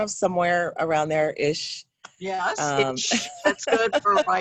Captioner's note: laughs